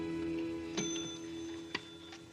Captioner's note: bell dings